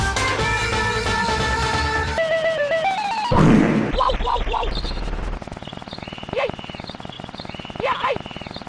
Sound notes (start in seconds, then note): 2.1 Mario stutters, varying in pitch; 3.4 heavily reverbed fart SFX